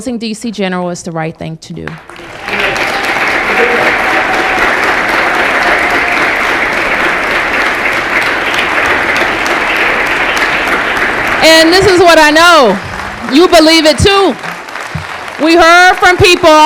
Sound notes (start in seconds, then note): 4.0 applause